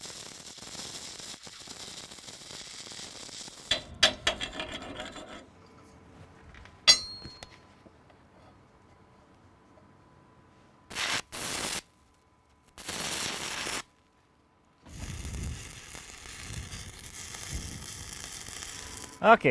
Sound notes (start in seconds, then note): 4.2 scrapping; 11.0 sparking; 16.7 sparking